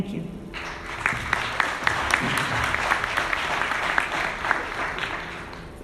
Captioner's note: audience applauding